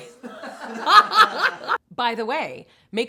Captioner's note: both laughing